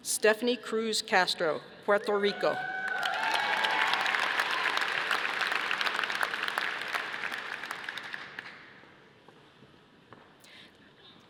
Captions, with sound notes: Stephanie Cruz Castro, Puerto Rico. (audience applauding)